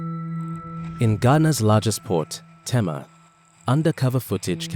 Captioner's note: voiceover